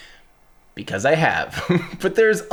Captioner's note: chuckles